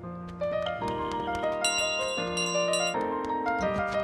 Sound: bell rings

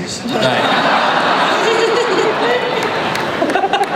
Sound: laughter

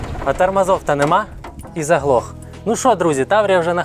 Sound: engine

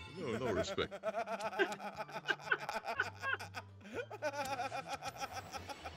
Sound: laugh

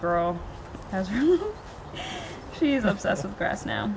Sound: laughing

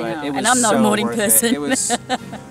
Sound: laughs

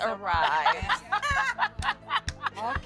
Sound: laughter

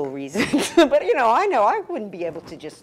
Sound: laugh

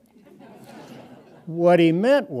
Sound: audience chuckles

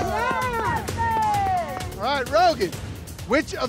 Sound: crowd cheering

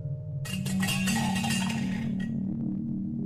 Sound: rattling; gentle music

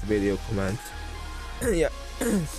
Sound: clears throat x2; clears throat x3

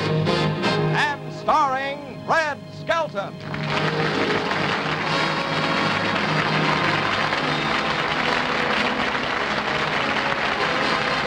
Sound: applause

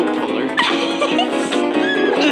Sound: chuckles

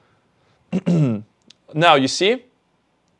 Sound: clears throat

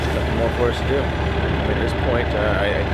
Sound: speaks quietly

